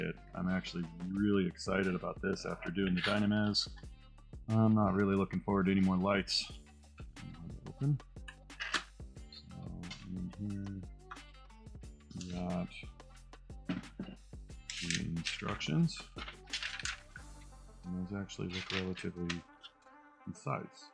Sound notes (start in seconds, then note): 15.9 paper rustling